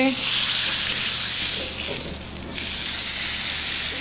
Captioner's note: sizzling